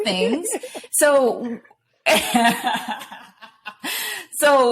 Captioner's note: laughter